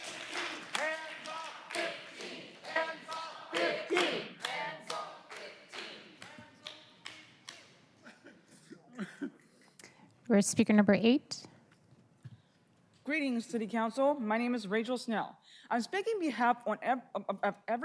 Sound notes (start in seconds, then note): 9.5 applause